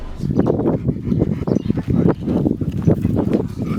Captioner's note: dog panting